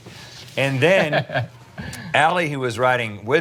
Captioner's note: laughs